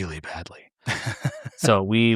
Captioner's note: laughing